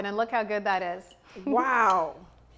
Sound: none

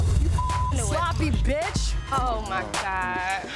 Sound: beep

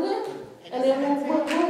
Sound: clapping

